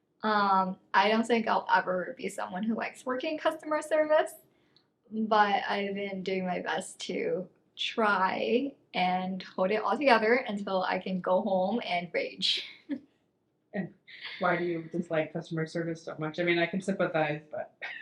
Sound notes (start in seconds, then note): 14.2 laughs; 17.8 pair laughing